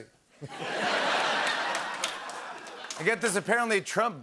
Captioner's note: laughter